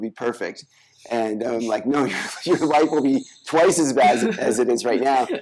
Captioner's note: chuckles; laughing